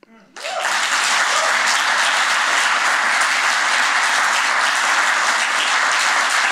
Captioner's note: cheers and applause